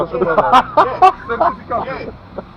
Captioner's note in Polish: Śmiech